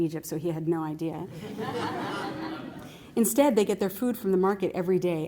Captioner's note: laughter